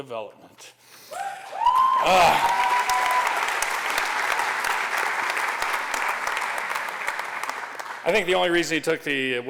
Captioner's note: applause